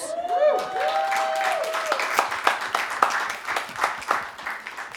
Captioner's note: audience applauding